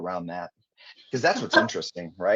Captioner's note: chuckling